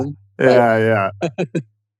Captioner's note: laughing